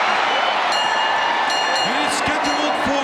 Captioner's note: audience cheering; bell ringing